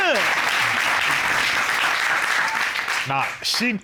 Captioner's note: applause